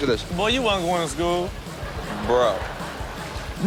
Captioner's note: audience laughs